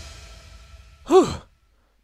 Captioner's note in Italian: Sospiro di sollievo